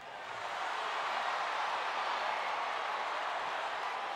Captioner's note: crowd cheering